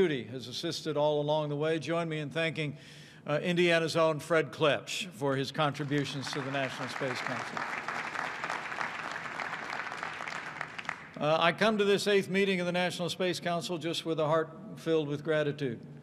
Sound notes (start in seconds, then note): 8.0 applause